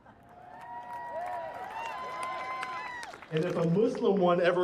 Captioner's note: audience applauds and cheers